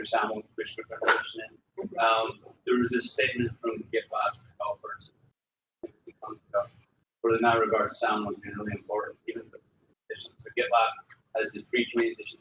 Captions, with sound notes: There was this statement from GitLab. (talking)